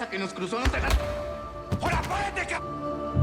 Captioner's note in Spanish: Golpes